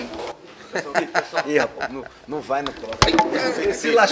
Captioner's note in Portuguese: risos